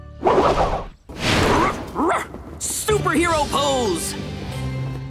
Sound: barking

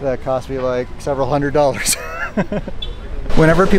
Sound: laughing

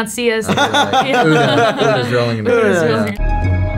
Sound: laughter

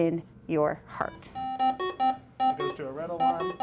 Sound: beeping

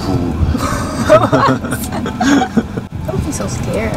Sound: both laughing

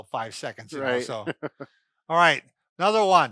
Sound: laughing

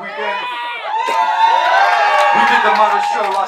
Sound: crowd cheers

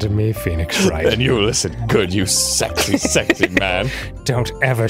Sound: laughing

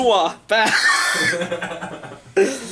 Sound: laughing

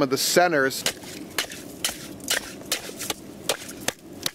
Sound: ax chopping ice

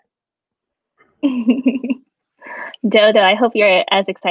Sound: laughing

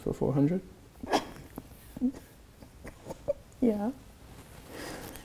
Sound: giggles

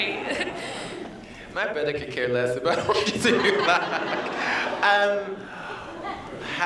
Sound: laughter

